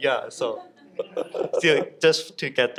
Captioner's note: audience laughs